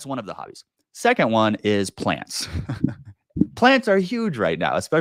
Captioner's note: chuckles